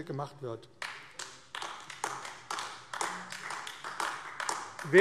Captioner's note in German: Beifall AfD